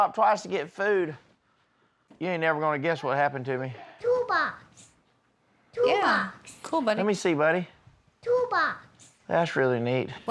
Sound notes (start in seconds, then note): none